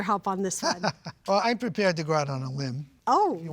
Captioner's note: laughing